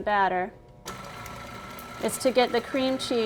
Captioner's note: whirring